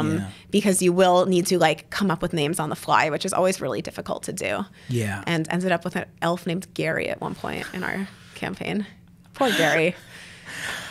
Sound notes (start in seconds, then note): 8.7 laughs